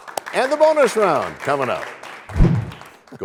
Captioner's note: applause